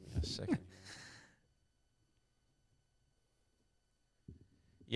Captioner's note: laughing